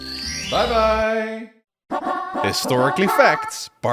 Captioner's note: evil laugh track plays